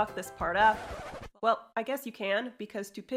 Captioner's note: record scratch noise